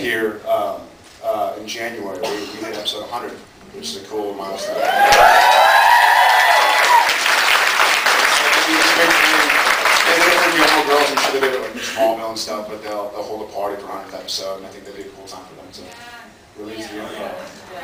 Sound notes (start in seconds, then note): 4.6 cheers, screams, applauds; 9.3 applauds; 16.7 sounds of agreement